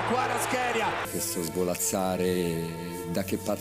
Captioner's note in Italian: Applauso